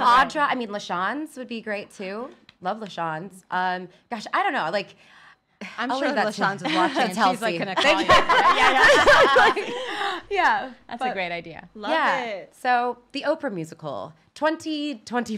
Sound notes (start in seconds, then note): 6.4 women laughing